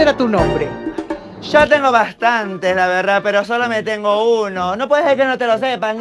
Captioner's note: argentinian accent